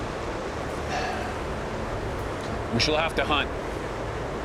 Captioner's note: sighs